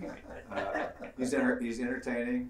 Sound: laugh

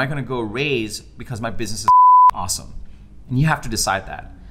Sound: beep

